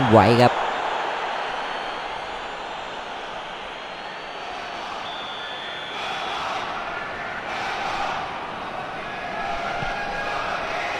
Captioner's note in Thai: ปรบมือ